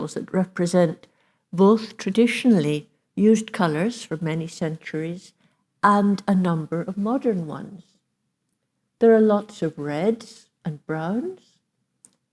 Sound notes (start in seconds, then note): none